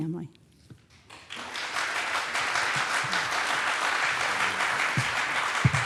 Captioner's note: audience applauds